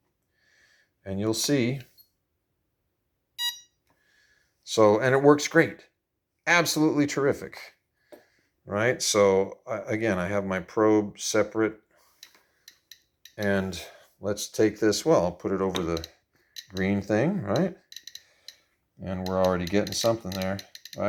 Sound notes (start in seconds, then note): 3.4 beep!; 12.6 geiger clicking; 19.1 geiger clicks faster